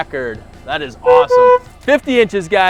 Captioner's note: forklift honks